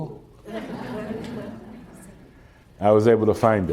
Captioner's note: laughter